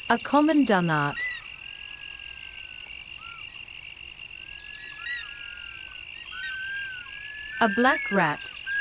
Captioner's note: nocturnal sounds